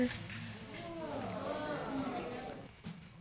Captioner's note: audience exclaims